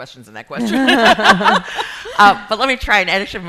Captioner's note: laughing